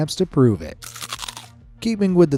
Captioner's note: chips crunching